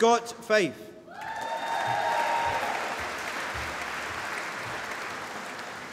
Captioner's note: applause